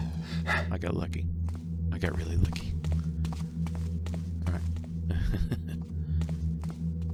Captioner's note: nervous laugh